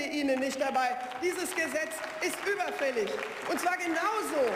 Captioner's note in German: Beifall